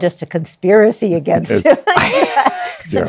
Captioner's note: laughs